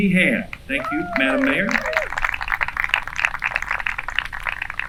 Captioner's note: applause